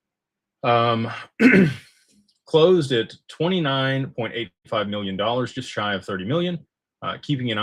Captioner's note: clears throat